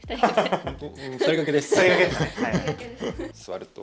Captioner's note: laughs